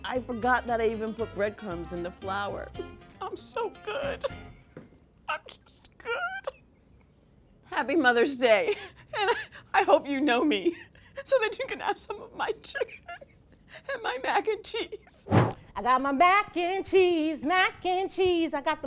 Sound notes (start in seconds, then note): 3.9 laughing